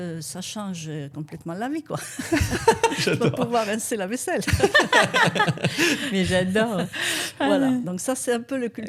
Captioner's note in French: rires